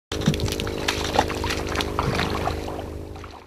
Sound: NATS: Water splashing

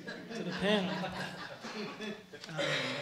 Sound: laughter

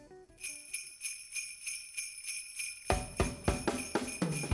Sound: bells jingling; bright music

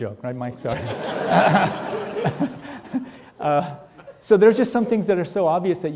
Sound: audience laughing

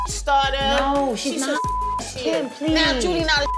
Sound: beep; beep

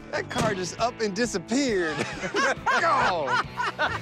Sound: laughing

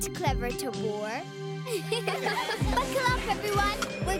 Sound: laughing

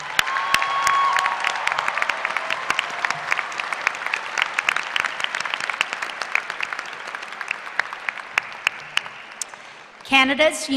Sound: applause

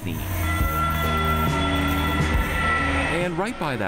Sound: horn dings

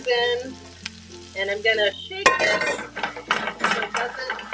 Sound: clanging drowning out voice

